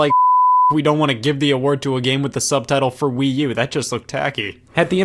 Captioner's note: beep